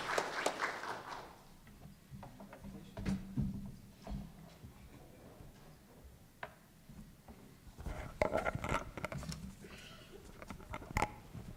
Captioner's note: background Talking and Sounds